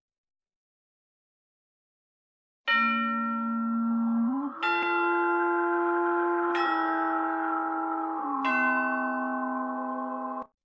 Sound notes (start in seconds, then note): 2.7 spooky chime plays